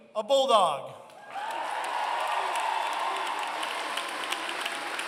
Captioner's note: applause